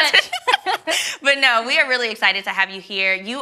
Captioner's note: ladies laugh